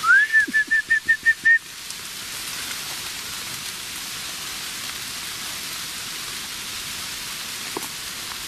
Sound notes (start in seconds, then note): 0.0 whistling; 2.7 rain pattering